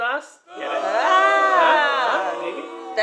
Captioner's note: boos